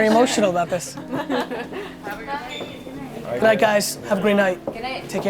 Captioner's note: group laughter